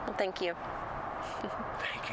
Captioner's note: birds chirping